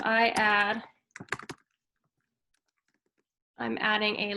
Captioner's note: keyboard clanking